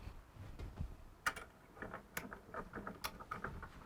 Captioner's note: switch clicks